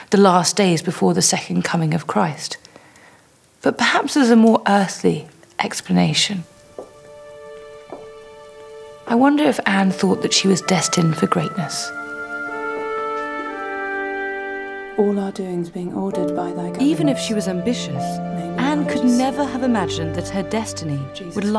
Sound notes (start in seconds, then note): 6.6 heels clack; 6.7 soft dramatic music